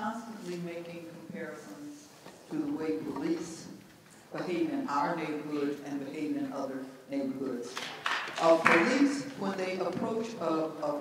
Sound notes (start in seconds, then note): 7.7 clapping